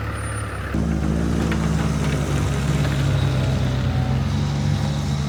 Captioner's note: vehicle rumbling